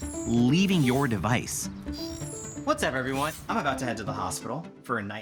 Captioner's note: on phone